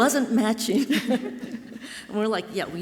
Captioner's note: laugh softly